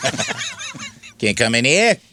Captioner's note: laughing